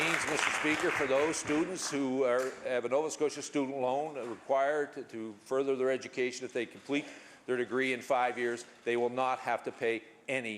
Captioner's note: applause